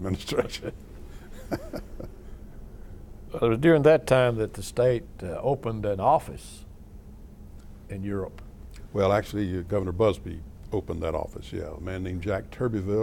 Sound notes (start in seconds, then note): 1.2 laughter